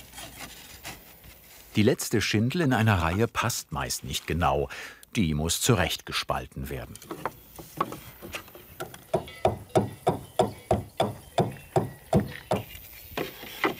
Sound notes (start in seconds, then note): 8.5 wooden banging, cowbells